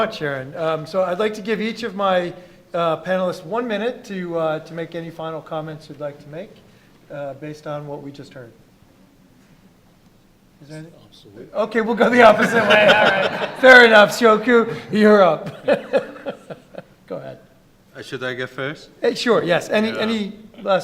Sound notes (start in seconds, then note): 12.0 laughing